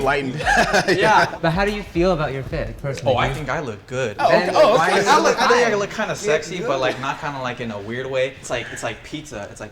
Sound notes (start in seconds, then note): 0.2 laughter; 4.2 guys murmuring